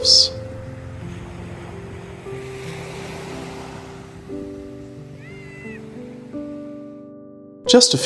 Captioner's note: sound of waves